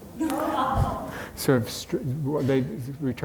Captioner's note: audience laughs